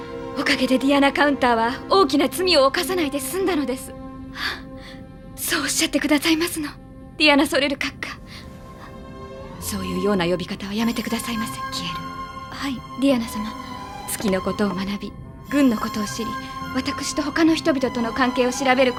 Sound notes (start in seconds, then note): 4.4 Kihel gasps softly